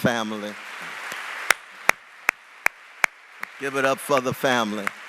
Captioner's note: applause